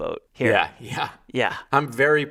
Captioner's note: laughing